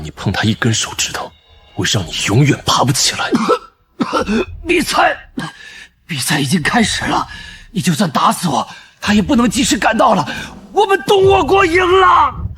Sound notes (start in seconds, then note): 2.8 coughs